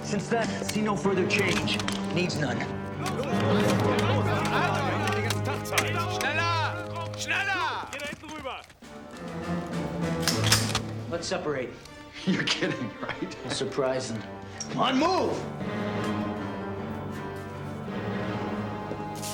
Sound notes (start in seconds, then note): 4.0 speaking german